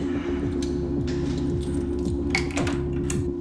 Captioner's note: keys